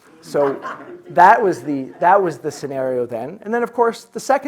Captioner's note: audience chuckling